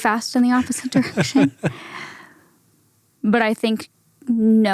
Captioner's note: laughs